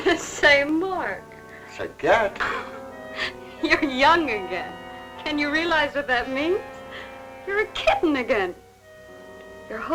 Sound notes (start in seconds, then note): 3.1 laughs